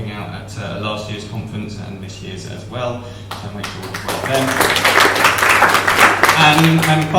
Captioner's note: applause